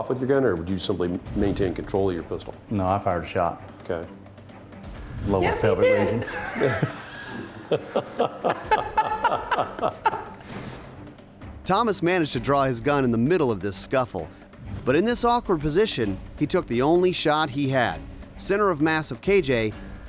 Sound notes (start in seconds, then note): 6.2 laughs